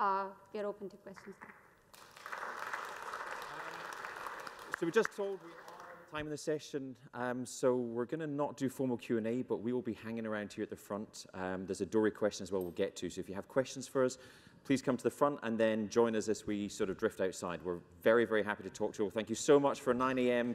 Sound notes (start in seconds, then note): 4.8 applause